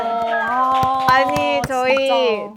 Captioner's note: enthusiastic cheers